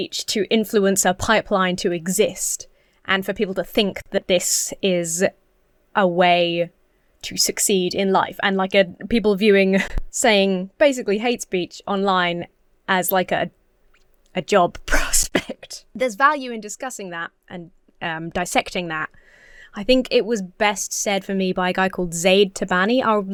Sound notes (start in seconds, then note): 15.3 chuckles